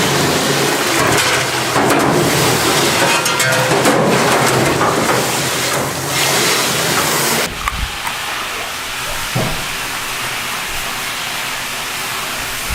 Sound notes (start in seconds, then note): 0.8 metal clanking; 0.8 water crashing; 7.4 worker chewing; 9.9 water crashing